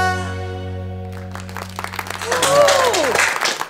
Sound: all aplauding and cheering

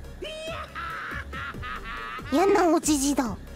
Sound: hahahahaha!

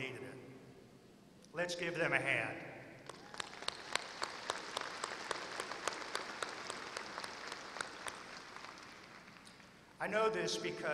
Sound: applause

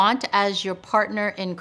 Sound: none

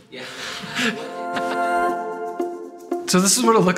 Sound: laughs

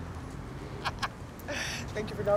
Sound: laughs

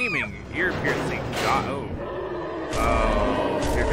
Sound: growling

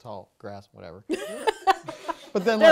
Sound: laughing

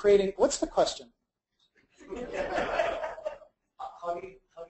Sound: audience laughs

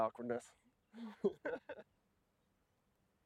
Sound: laugter

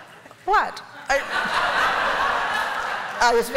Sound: laughter

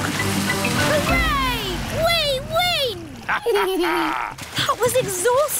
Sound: both laugh

